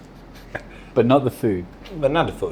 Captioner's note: laughing